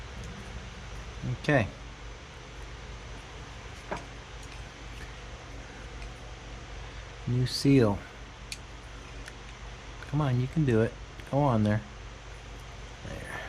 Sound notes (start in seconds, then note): none